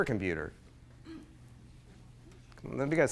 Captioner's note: coughs